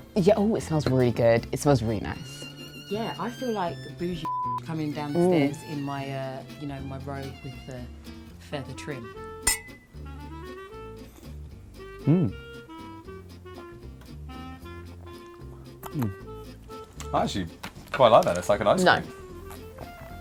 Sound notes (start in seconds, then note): 4.2 beep; 9.4 glasses clink